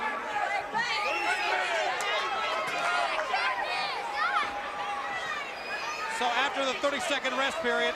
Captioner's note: crowd chatter